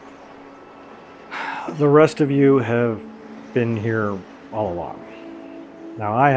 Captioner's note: sighs